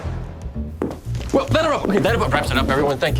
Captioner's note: footsteps